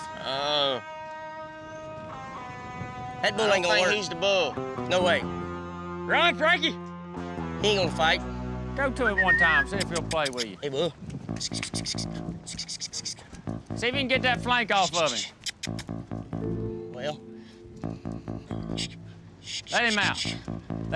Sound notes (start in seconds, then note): 11.3 makes squeaky sounds; 14.8 makes squeaky sounds